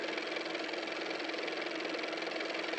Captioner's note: car motor